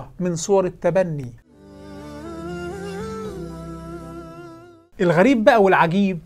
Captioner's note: logo and sound effect